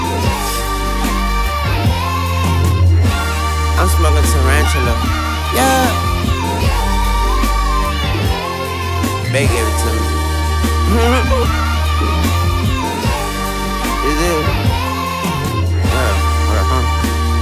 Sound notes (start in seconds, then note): 11.0 haha